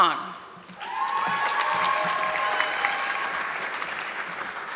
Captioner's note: audience clapping